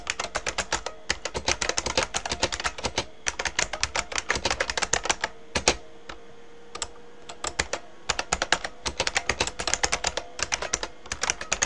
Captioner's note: typing